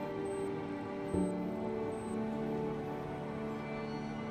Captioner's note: electronic beeping from machine